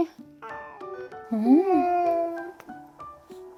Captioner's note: meow